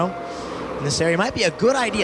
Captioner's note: wind whooshing